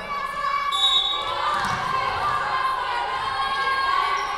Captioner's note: whistle blowing